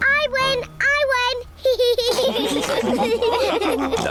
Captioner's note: all laugh